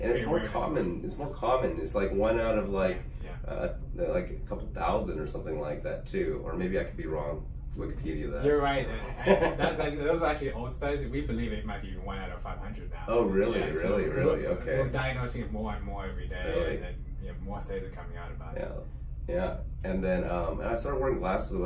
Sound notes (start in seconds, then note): 8.8 laughs